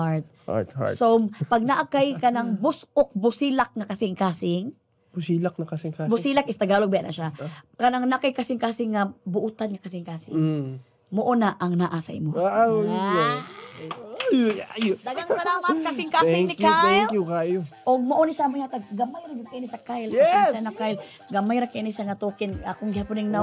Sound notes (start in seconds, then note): 13.5 giggles